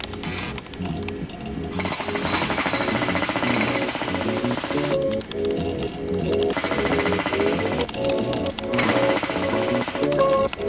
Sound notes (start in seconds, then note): 0.2 beeping; 1.7 typing; 1.8 jack-hammering